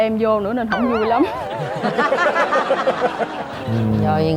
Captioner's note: laughing